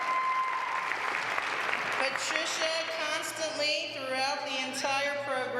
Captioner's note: applause